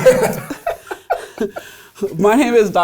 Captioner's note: laughing